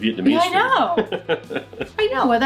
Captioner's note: laughs